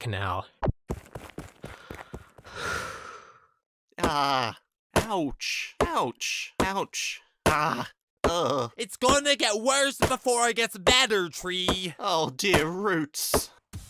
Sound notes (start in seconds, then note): 2.4 deep sigh